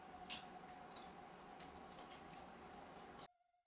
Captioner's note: eating sounds